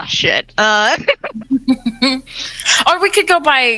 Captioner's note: laughing